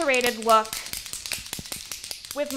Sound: can rattling

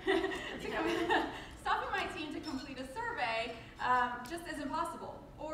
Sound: laughs

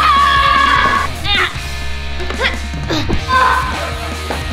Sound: screaming; grunting

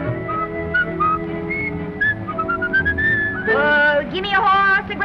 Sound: whistling

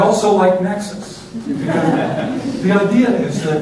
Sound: laughter

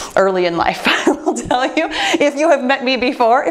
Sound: laughs

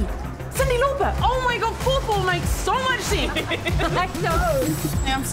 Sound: laughs

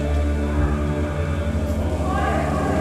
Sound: echoing; wailing

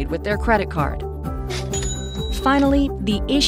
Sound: cash register ringing

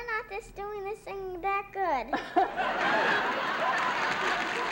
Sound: laughter

